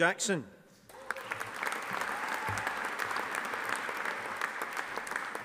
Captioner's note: audience applauding